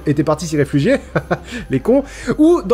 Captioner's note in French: petit rire moqueur